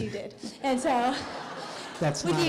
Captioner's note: laughter